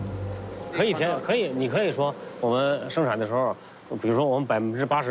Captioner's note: speaking in foreign language